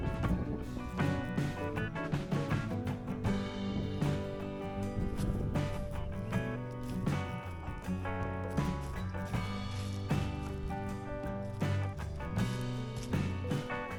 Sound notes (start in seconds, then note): 5.0 wind Blowing